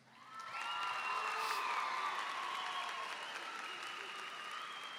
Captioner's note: applause and cheering